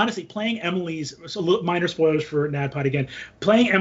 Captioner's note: none